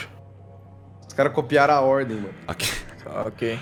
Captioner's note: laugh